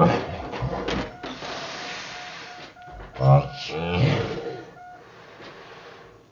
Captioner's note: laughs